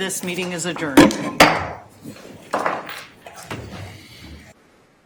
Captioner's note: gavel banging